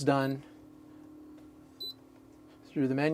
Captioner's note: buzzing